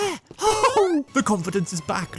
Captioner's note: a hefty mario noise